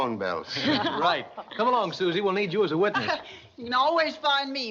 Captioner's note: laughs